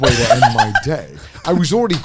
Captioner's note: laughing